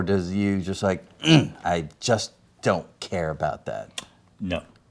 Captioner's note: grunts